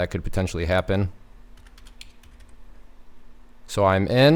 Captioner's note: typing